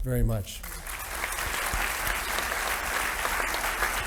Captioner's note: audience applauding